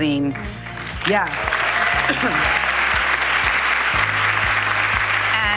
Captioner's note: audience applauding